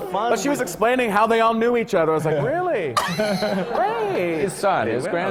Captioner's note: laughter